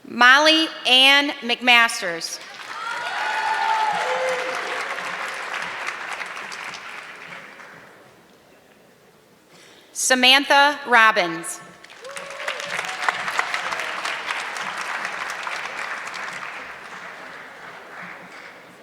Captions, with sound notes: Molly Ann McMaster. (audience clapping) Samantha Robbins. (audience clapping)